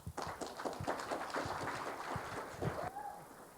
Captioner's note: applause